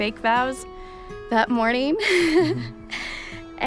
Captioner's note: giggles